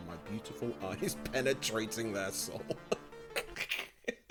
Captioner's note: laughs